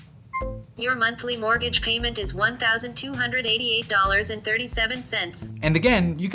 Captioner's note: voiceover